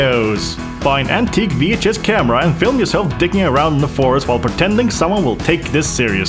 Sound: none

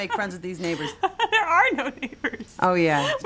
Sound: laughing

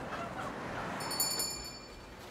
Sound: bell chimes

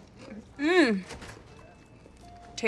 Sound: moaning

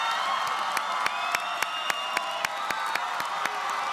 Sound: applause

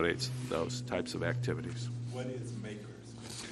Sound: off mic

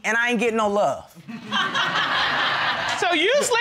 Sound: laughter

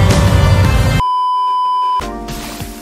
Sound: beeeeeep

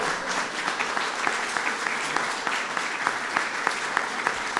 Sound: applause

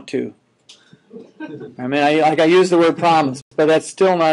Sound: students chuckling

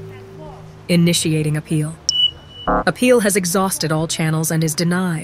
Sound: AI Voice

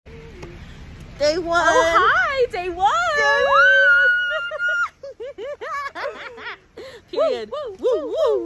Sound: laughing

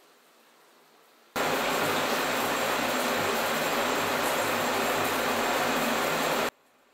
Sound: shower running

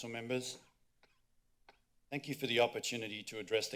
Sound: coughing

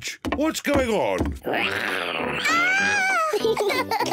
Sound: roars; both giggle

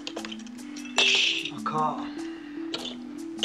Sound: chips rattle

